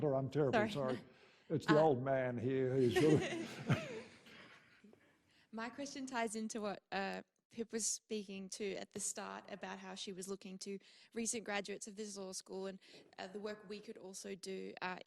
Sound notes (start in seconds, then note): 1.6 laughs; 2.6 audience laughing